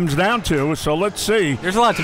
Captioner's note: clock buzzes